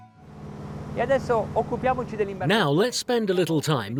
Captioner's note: speaking foreign language